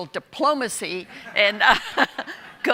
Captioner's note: audience laughing